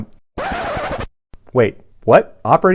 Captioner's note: record scratches